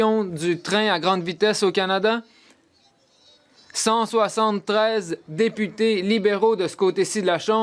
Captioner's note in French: voix de l'interprète